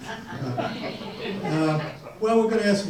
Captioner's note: audience laughs